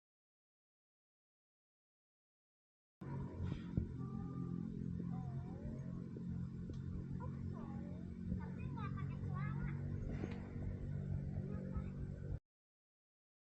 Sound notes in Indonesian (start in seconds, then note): 8.4 berbicara bahasa Indonesia